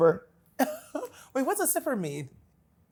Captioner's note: laughs